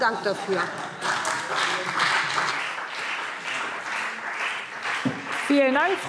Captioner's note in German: Heiterkeit und Beifall BÜNDNIS 90/DIE GRÜNEN und CDU